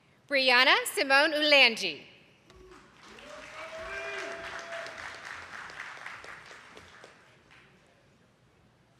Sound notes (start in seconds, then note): 2.5 attendees clapping